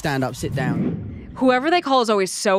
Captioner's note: screen whooshing